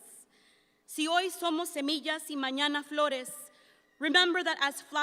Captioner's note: speaks in Spanish